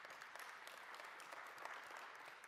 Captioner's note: applause